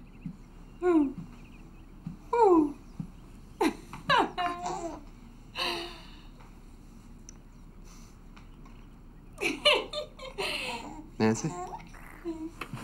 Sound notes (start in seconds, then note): 3.6 Nancy laughs; 9.4 Nancy laughs